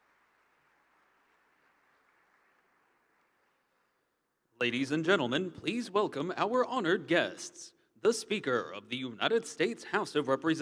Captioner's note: applause